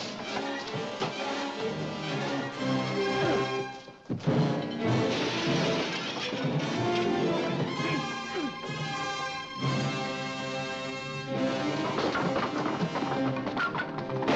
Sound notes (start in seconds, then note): 0.0 suspenseful music; 5.0 glass shatters; 7.0 suspenseful music; 11.8 carriage rattles